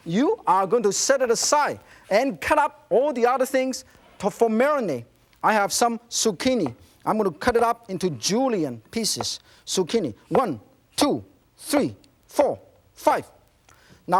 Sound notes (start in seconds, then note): none